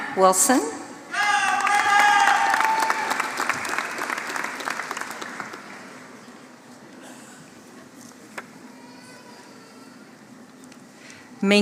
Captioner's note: applause